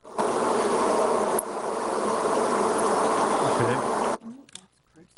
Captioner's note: microphone static